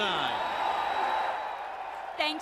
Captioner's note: crowd cheering